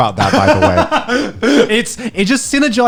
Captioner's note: laughing